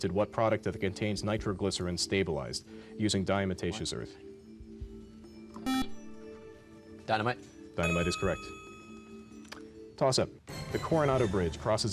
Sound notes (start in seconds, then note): 5.6 beep